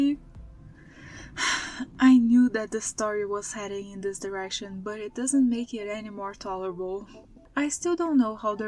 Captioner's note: sigh